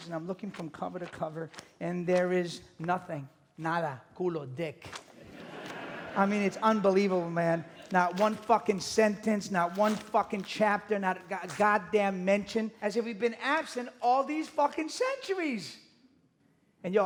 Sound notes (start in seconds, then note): 3.1 speaks in a foreign language; 5.2 audience laughing